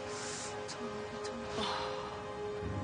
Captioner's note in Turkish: Rukiye nefes verir